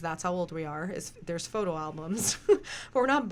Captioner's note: laughs